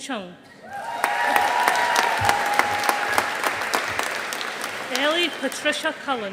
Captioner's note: audience applauding